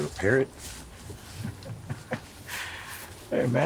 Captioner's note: Anderson chuckling